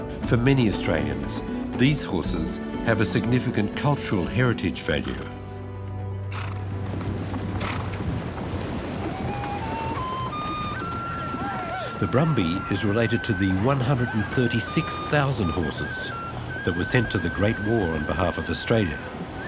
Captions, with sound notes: For many Australians, these horses have a significant cultural heritage value. (reverential music) (men shout) The brumby is related to the 136,000 horses that were sent to the Great War on behalf of Australia.